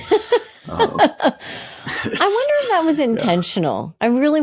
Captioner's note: laughing